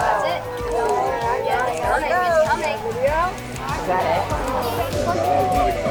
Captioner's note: people chatting indistinctly